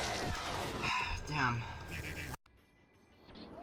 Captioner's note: sigh